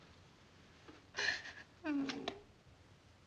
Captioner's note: crying